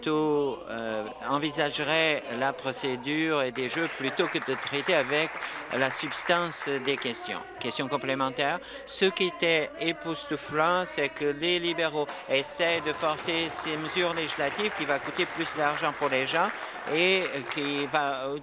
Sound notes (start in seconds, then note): 7.0 applause